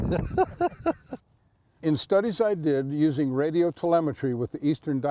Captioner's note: laughs